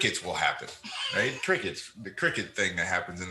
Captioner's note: chuckles